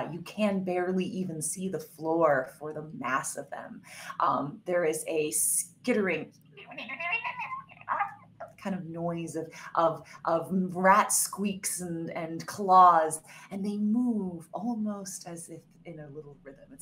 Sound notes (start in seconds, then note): 7.0 groans